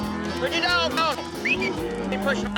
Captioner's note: whistles